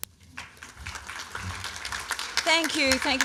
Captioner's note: applause